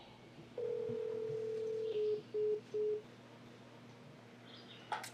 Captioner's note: phone rings and beeps